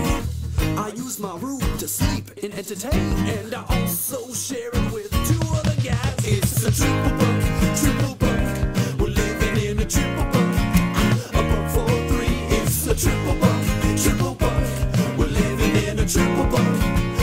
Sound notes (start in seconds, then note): 8.4 clap